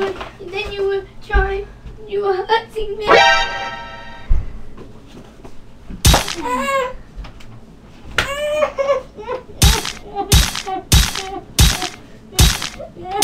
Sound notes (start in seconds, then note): 3.4 smashing with sword